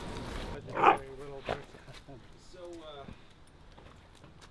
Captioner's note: dog barking